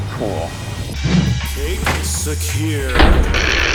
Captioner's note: voiceover; vault slams closed